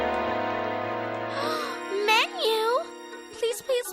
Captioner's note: gasps